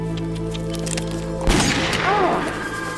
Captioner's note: gunshot